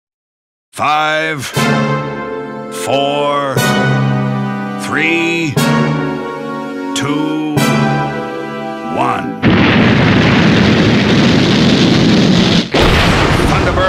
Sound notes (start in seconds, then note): 1.6 bold music playing; 9.4 rocket roaring; 12.7 thunder exploding